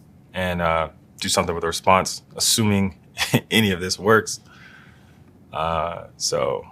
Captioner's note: laugh